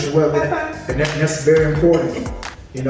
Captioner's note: hands clapping